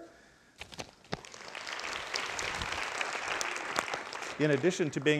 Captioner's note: crowd applauding